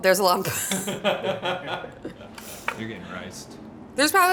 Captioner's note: crew laughing